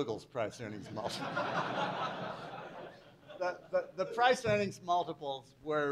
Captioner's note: laughter